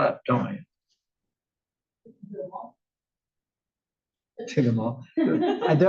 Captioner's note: laugh